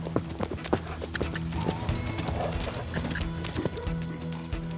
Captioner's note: suspense music; hoofbeats; suspense music